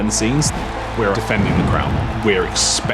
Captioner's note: crowd cheering